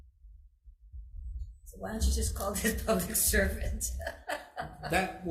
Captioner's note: laughs